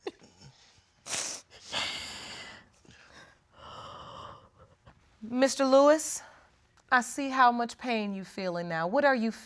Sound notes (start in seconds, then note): 3.8 shuddering